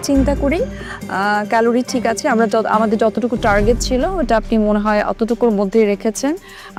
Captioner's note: none